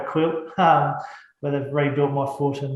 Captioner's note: laughs